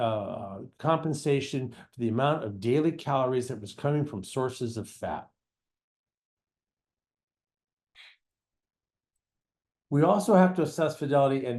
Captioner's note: pause